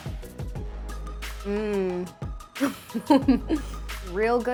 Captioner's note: laughs